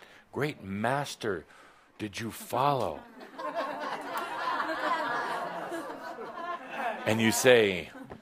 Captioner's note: laughter